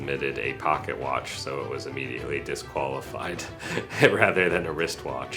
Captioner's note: laughs